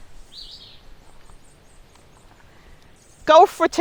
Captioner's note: birds chirping